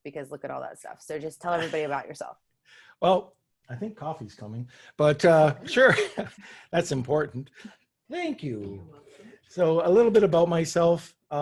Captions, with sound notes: because look at all that stuff. So just tell everybody about yourself. - Well, I think coffee's coming, but sure. (chuckles) That's important, thank you. - You're welcome. - So a little bit about myself